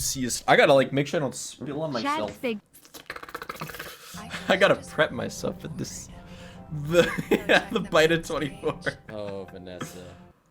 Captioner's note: laughing